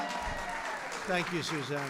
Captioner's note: applause